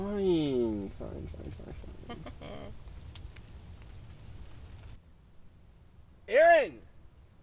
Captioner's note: chuckles